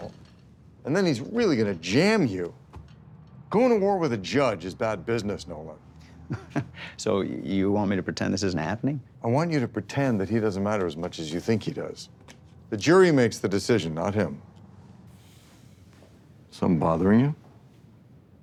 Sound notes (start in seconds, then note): 6.0 chuckles